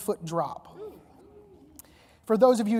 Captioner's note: audience reacting